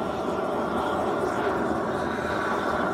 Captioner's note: hissing